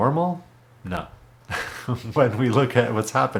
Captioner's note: chuckles